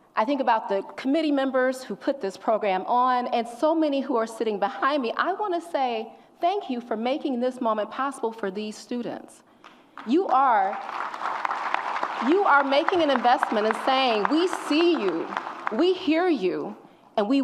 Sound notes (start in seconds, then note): 9.9 audience applauds